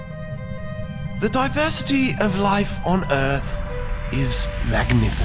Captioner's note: imitates david attenborough